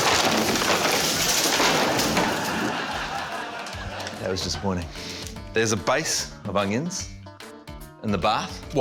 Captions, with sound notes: (LAUGHTER) That was disappointing. There's a base of onions in the bath.